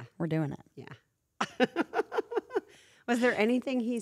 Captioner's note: laugh